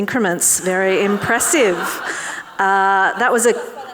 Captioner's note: audience laughing